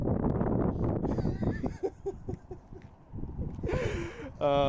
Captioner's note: awkward laughs